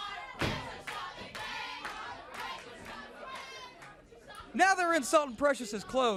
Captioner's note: crowd chatter